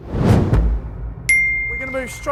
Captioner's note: bell dinging